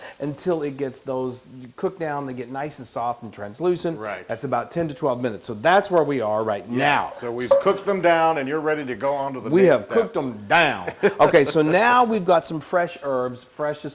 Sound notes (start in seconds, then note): 10.8 laugh